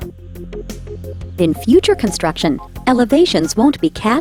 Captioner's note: voiceover